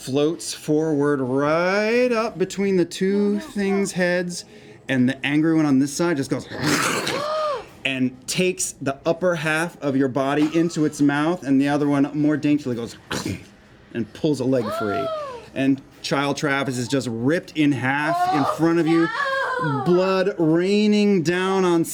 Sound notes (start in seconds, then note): 6.5 growling; 13.4 chomping